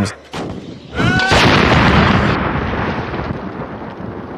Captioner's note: loud explosion